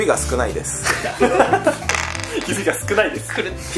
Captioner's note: laughs